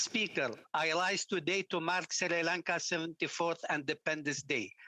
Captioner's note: speaking French